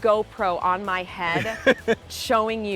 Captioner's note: laughing